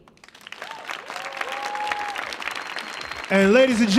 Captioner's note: audience cheering